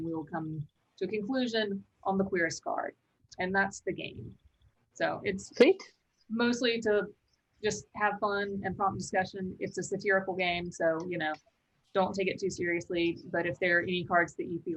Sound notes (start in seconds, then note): none